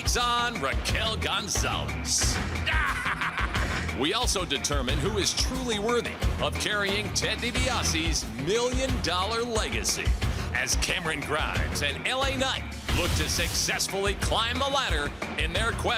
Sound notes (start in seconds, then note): 2.5 laughs